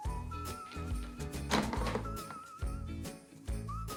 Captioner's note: rhythmic whistling